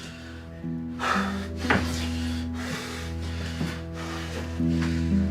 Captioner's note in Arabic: لاهث